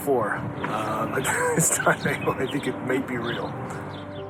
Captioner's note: laughs